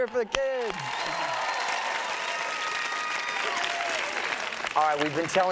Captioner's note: audience cheers and applauds